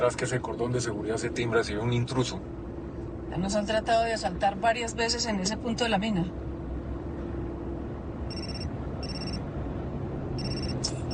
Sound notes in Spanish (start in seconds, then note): 8.0 Suena el celular